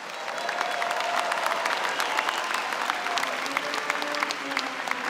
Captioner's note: cheering and applause; brass music